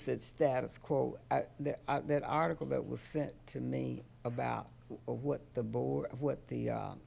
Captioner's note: stammering